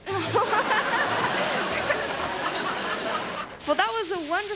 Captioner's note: laughter